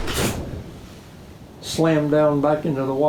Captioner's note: imitating swishing slam